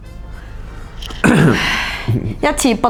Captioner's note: sighs